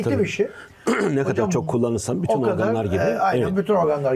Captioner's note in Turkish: boğazını temizler